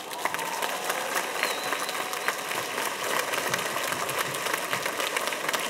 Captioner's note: audience applauding and cheering